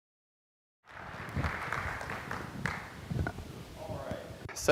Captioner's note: applause